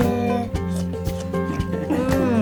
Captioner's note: he imitates licking sounds